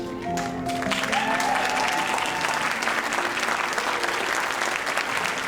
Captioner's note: audience applauding and cheering